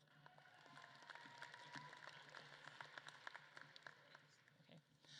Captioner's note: audience claps and cheers